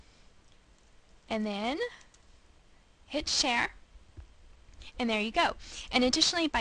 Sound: pause

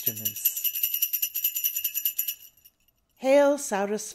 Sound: rattle

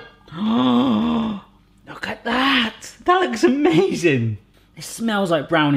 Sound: gasps

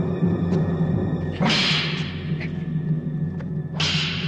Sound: clinking

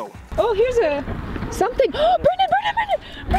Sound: gasp

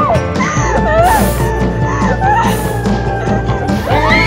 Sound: screaming; Rory cries; pained neigh

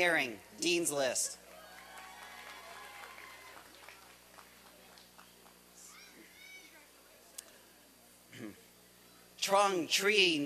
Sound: applause and cheering

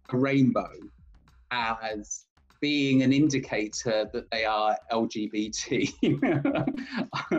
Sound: laughs

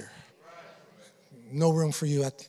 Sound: congregation affirming

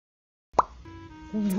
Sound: pop

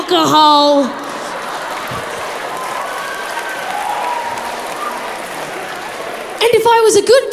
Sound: crowd laughs

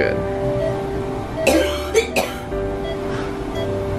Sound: coughing; beeping

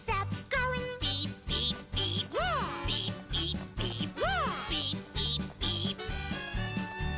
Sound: beep, beep beep

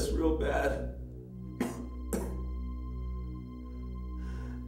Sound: coughing

